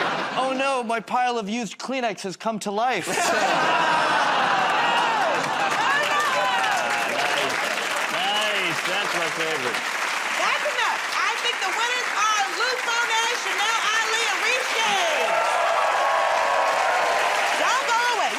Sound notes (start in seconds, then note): 3.4 audience "Oh"s; 15.4 cheers and applause